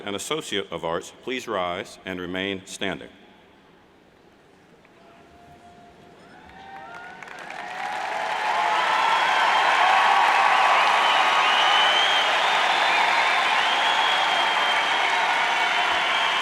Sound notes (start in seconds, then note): 6.7 cheers and applauds